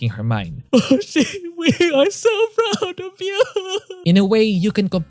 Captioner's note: crying